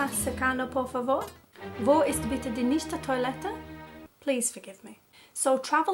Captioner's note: terrible Spanish Accent; terrible German Accent